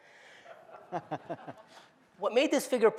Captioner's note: laughter